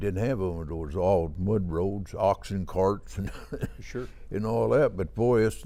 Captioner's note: chuckling